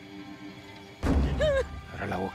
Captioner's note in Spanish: Quejido